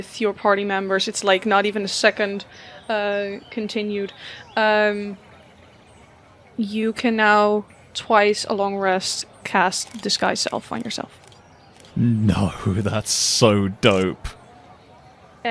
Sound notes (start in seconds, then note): 11.7 cameras start flashing again